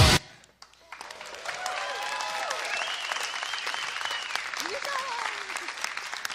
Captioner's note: applause and cheering